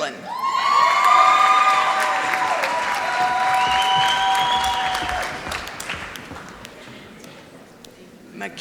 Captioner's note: applause